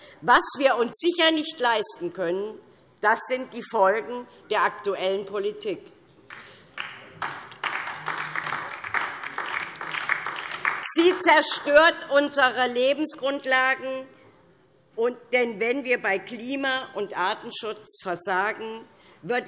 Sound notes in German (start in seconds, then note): 6.2 Beifall DIE LINKE